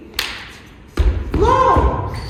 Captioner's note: slap